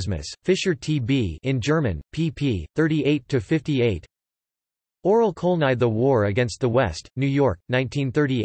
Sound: in German

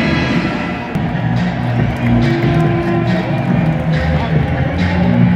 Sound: clap

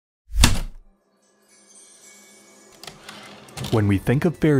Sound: heavy typewriter keystroke, chimes, typewriter return slide

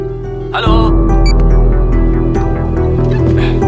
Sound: beeps

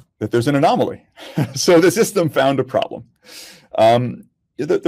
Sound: laughs

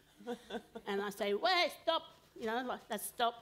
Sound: foreign language

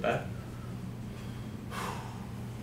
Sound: exhales

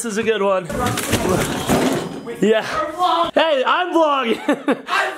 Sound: crashing sound

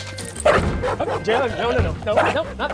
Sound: knocking; dog barking

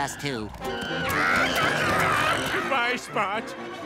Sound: growling

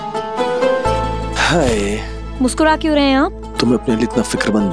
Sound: sighs

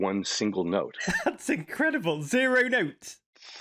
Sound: chuckling

